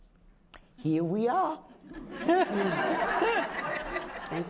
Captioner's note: laughter